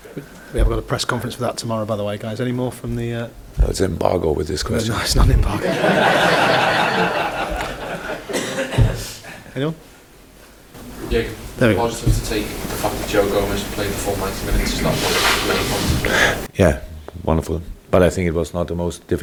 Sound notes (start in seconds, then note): 5.4 general Laughter